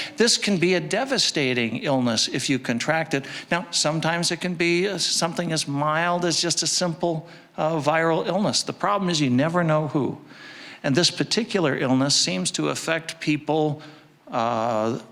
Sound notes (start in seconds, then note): none